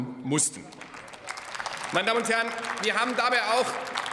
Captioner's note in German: Beifall bei der FDP, der SPD und dem BÜNDNIS 90/DIE GRÜNEN